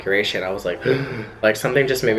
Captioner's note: gasps